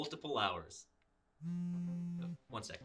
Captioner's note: phone buzzes